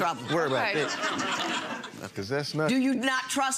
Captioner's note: audience chuckles